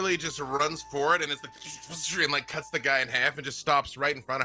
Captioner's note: swishes